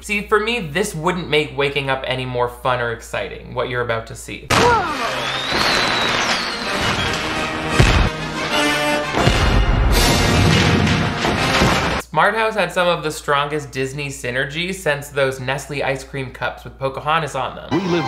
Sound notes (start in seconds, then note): 4.5 fireworks whistling; 9.2 cannon booming